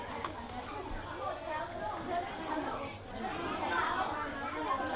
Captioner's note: kids chatter